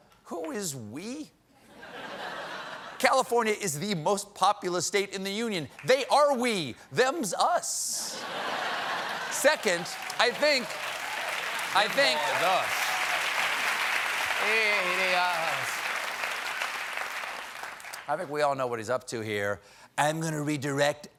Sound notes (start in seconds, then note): 8.1 laughter; 9.5 applause